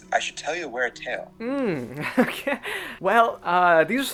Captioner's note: nervous chuckle